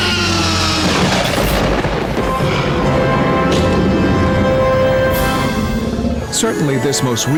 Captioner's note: dinosaur roars; thunder rumbles; lighting strikes